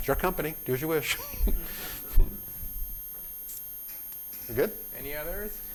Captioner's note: laughter